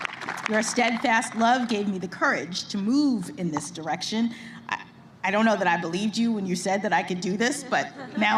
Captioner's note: applause